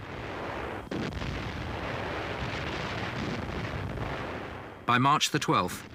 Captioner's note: artillery blasting